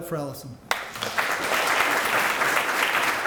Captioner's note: applause